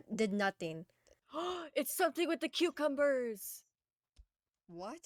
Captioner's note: gasp